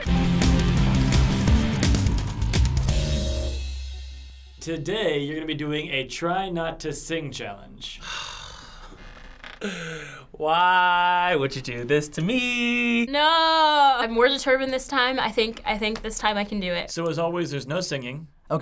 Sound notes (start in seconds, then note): 0.0 industrial music; 8.0 sighing wearily